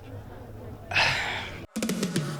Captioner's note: exasperated sigh